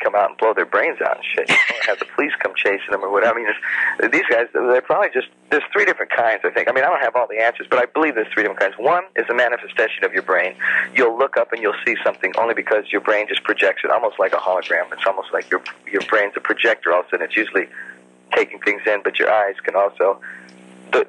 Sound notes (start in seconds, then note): 1.4 laughs